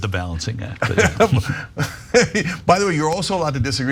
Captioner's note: laugh